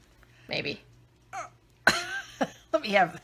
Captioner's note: laughing